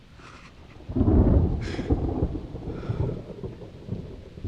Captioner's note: thunder rumbles